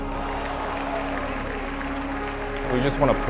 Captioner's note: crowd applause